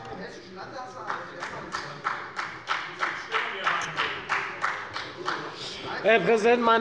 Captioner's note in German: Beifall bei der FDP